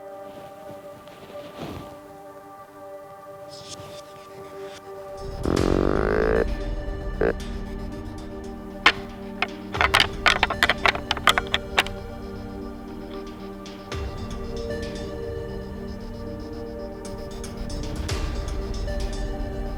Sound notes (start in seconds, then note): 5.2 deer calling; 8.6 antlers rattling; 12.3 expectant music